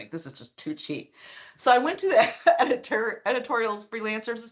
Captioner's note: chuckling